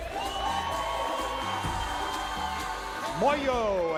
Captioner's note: audience cheers